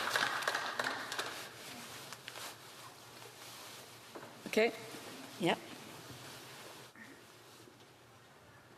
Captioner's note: applause